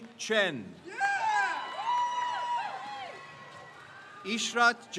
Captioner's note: crowd cheers